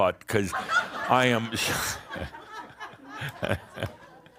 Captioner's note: more laughter; Adamus chuckles